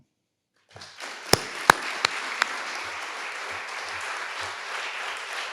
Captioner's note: audience applauding